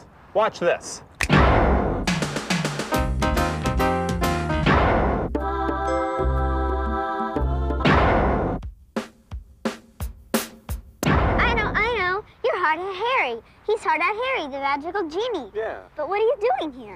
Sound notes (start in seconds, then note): 1.2 loud short bang; 2.0 upbeat music starts; 7.8 loud short bang; 11.0 loud short bang